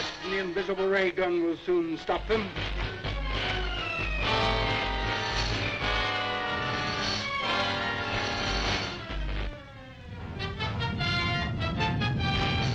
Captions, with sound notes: - Watch, the invisible ray gun will soon stop them. (gun sparking) (tense dramatic music)